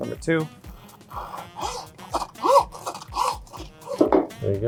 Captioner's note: sawing bone